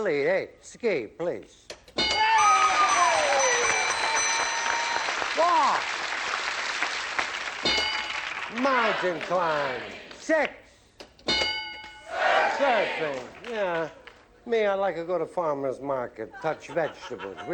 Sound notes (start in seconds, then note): 2.2 cheering; 11.2 ding